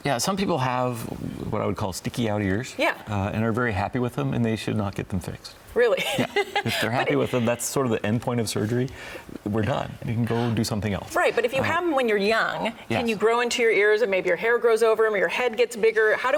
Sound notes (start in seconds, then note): 6.0 laughs